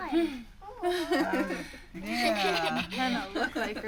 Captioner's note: laughing